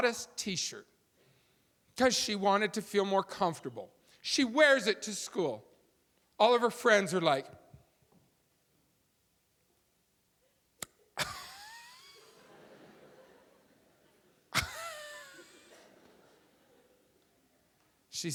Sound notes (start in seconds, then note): 7.3 audience laughing; 7.3 gasping loudly